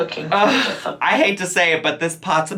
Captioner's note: sighs in annoyance